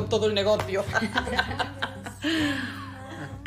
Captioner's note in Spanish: Risas